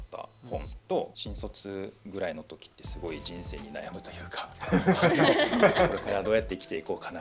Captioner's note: laughs